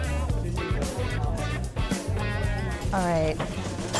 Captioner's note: customers chattering